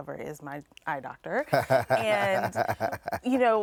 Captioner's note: laughs